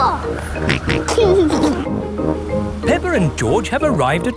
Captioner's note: snorts and giggles